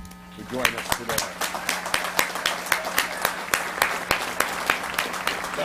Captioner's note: audience applauds